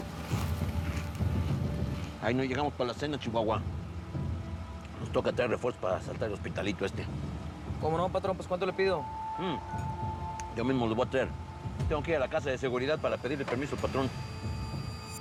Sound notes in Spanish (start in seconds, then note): none